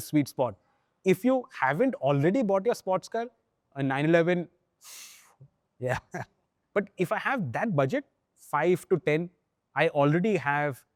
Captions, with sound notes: that is, like, the sweet spot. If you haven't already bought your sports car, a 911, [exhales] yeah. [chuckles] But if I have that budget, 5 to 10, I